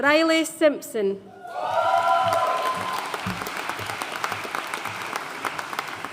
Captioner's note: audience cheering and applauding